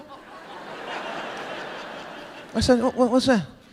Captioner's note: audience laughing